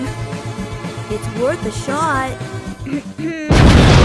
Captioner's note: cough cough